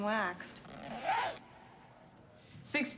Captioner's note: zipper unzips